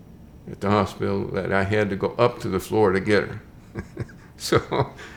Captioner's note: chuckles